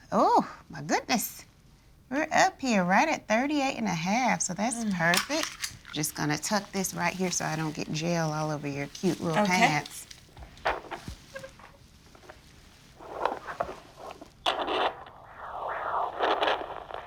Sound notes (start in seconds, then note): 11.0 static crackling